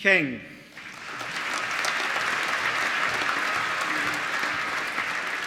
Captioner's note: applause